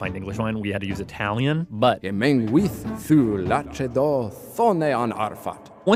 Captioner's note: speaking Old English